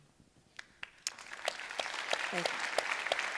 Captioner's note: audience applauding